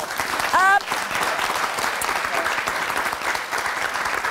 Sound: audience applauding

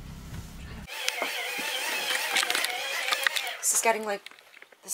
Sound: lamp whirring and clattering

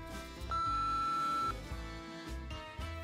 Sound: beeping

